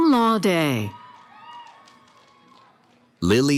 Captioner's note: cheering